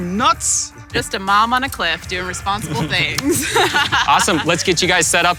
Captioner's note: laughs